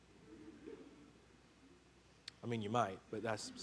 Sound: congregation laughing

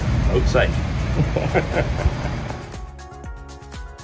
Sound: laughs; upbeat music

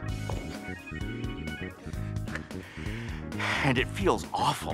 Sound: playful instrumental music; heels tap floor

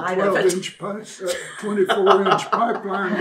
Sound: laughter

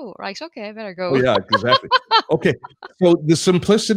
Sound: laughs happily

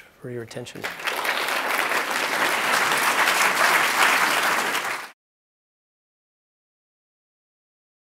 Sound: applause

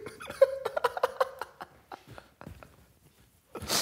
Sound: laughing

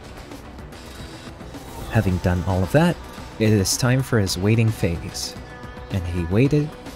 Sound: glitch sound effects

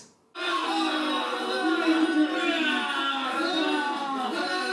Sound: grunting on TV

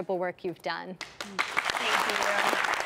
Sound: clapping

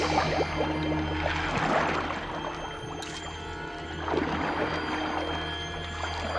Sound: none

